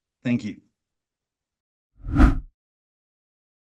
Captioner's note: whooshing